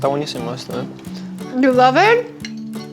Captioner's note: speaks Spanish